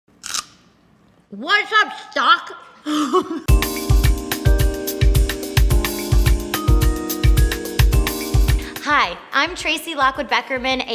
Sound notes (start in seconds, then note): 0.2 celery crunches; 2.8 laughs; 3.5 jazzy lounge music